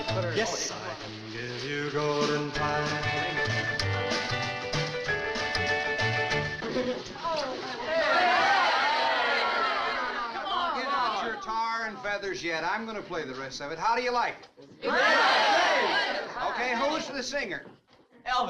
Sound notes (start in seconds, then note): 7.8 crowd groans; 14.8 crowd cheering